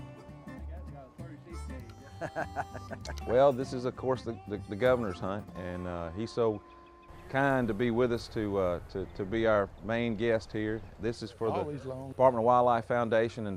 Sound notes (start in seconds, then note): 1.6 laughs